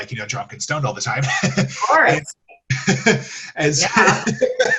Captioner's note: laughs